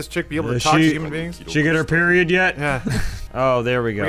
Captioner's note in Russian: хихикает